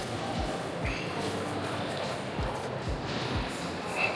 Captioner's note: children chattering